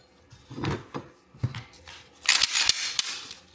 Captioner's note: gun disassembly sound